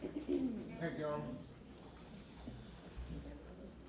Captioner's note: laughter